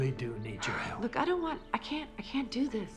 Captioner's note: sighs